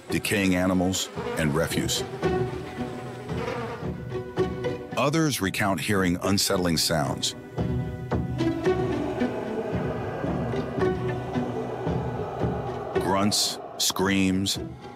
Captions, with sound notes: decaying animals, and refuse. (flies buzzing) Others recount hearing unsettling sounds. (suspenseful music continues) (creature howling) grunts, screams,